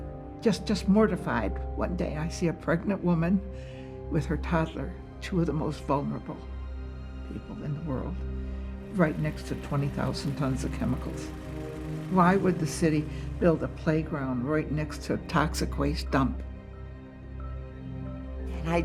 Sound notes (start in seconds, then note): none